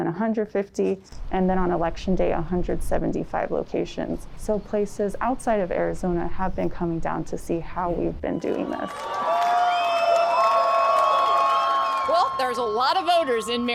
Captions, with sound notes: And then on election day, 175 locations. So places outside of Arizona have been coming down to see how we've been doing this. (crowd cheering) - Well, there's a lot of voters in Maricopa County.